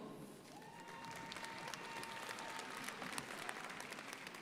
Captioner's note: crowd applauding